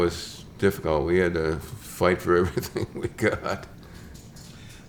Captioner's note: chuckles